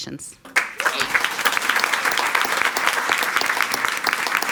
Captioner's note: all applauding